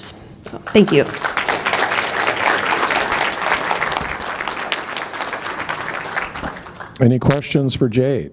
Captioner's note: applause